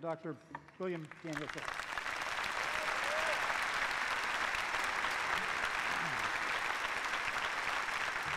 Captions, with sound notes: LET'S GIVE A WARM RIT WELCOME TO DR. PHILLIPS. (APPLAUSE)